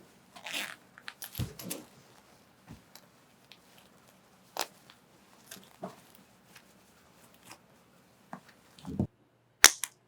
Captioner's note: sound of moving around; sound of unzipping pants; sound of tossing and turning; sound of dropping a pen